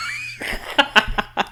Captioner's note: laughs